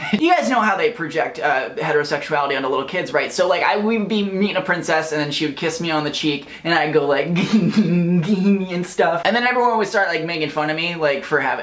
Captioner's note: giggles